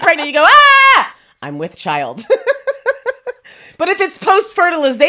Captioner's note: laughs